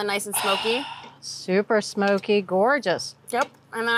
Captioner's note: sighs